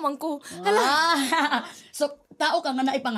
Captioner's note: exclaims, chuckles